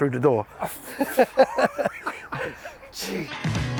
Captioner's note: laughing; upbeat music